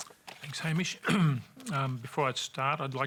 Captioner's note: clears throat